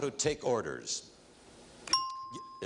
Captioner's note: ringing bell